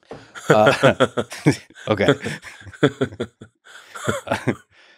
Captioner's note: laughs